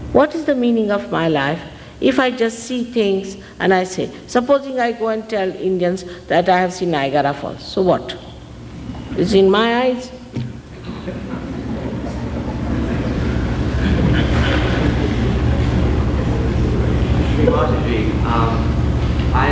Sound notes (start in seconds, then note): 10.7 laughter